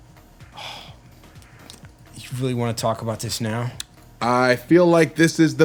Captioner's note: sighs